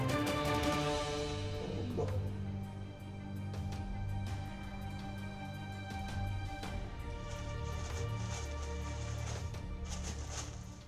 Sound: rustling of tissue paper, music fades out

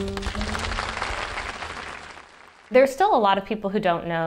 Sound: applause

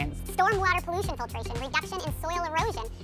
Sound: in sped-up voice

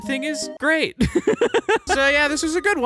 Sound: laughter

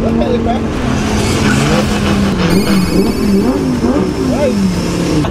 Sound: engine rumbling

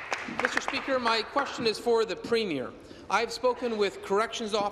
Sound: applause

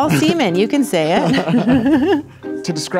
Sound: laughing

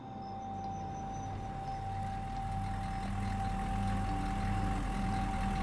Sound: van engine rumbles

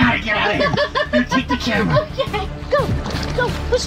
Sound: laughing

